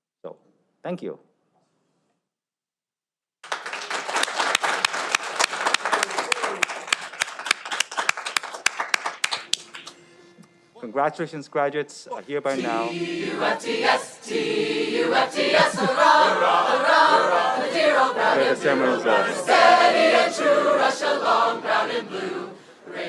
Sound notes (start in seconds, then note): 3.4 audience applauding